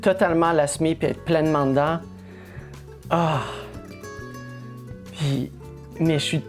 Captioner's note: sigh